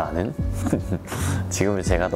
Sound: laughing

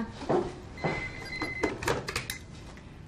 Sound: phone ringing

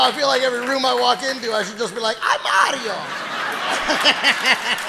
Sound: laughs; audience applauding

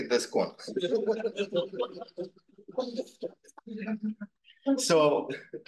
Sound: students laughing

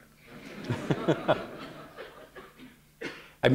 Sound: laughter

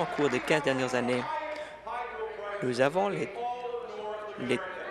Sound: applause

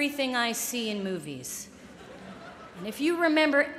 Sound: laughter

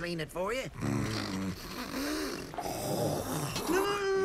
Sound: snorting

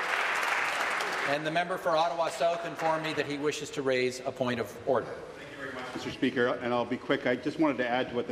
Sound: applause

